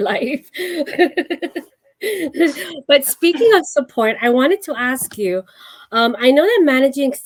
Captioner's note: laughs